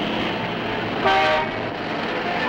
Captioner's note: horn honks